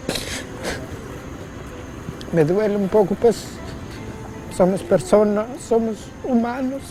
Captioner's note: sobbing